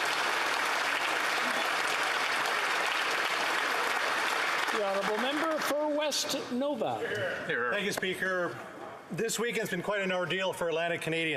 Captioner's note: applause